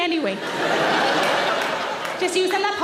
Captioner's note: audience laughing